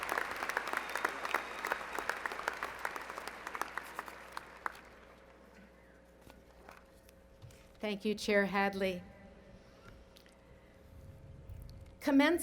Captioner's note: applause